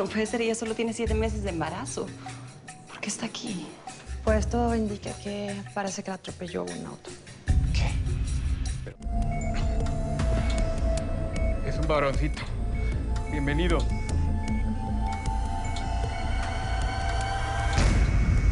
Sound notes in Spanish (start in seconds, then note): 9.0 Beeping; 16.1 Alarm